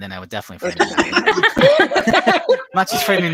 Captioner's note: everyone laughs